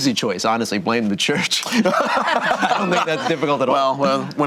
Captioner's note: group laughter